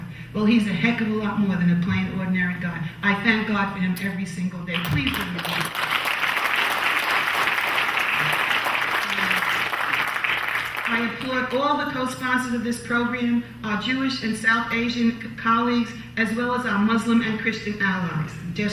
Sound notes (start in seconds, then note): 4.7 clapping